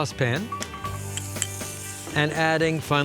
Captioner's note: sizzle